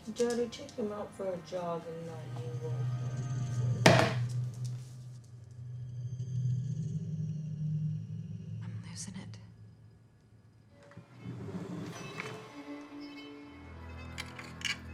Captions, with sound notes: Did Daddy take him out for a jog and not you? (can thumping) (eerie music) I'm losin' it. (mysterious string music)